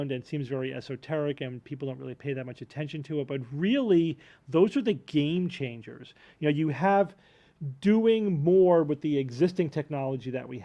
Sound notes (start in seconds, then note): none